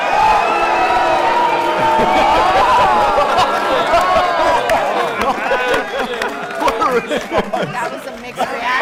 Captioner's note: cheering and booing